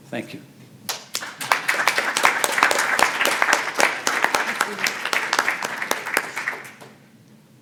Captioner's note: applause